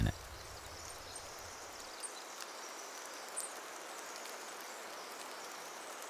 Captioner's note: rain gently splashing